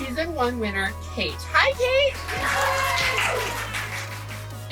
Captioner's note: applause